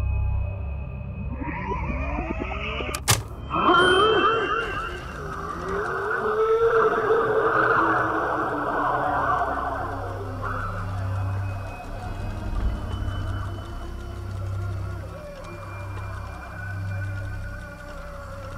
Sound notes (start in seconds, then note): 1.6 eerie sound effects continue; 2.9 button clicks; 4.0 eerie sound effects